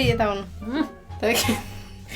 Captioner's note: laughing